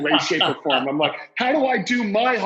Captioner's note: laughs